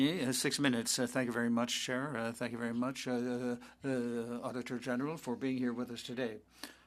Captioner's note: speaking French